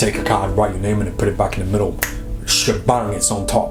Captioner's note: snaps